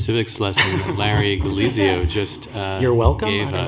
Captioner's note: laughter